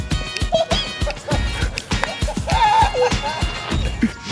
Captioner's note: children laugh